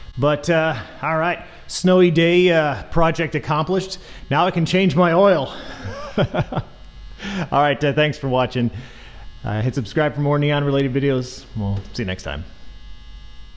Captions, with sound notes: But, all right, snowy day project accomplished, now I can change my oil! [laughs] All right, thanks for watching. Hit subscribe for more neon-related videos, we'll see you next time.